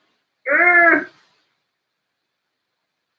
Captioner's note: grunts